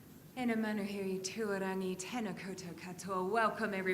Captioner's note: woman speaks foreign language